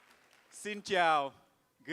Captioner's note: speaks in Vietnamese